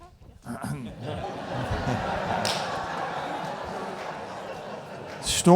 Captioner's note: audience laughing